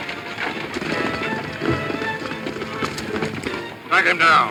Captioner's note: horse hooves pounding